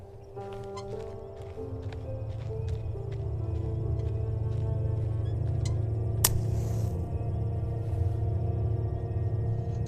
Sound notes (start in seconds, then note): 3.3 match Strikes